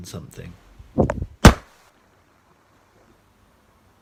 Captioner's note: bang